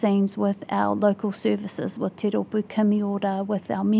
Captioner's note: speaking in foreign language